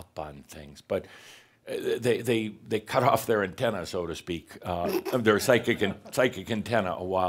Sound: snickers

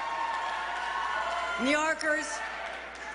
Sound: cheers and applause

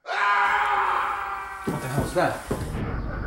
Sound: screaming

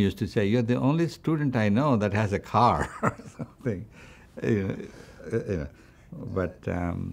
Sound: laughs

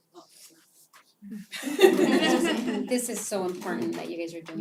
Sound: laugh

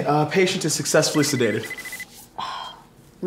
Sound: pager beeps

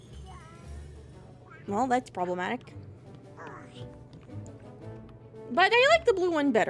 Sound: Donald Grumbling

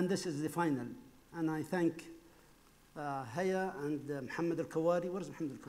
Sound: speaking foreign language

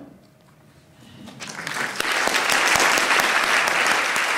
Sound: applause

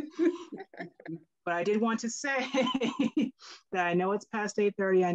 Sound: laughing; laughs

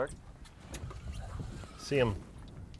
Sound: reel cranking

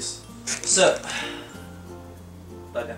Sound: sigh

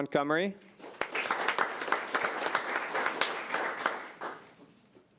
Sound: audience applauding

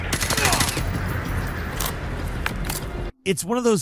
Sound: enemy groans; gunshots click

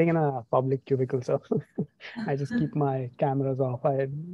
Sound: chuckles

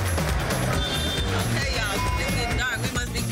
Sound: horns honking; beep

